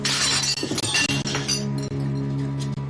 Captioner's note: glass shatterining